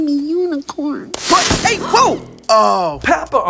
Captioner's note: groans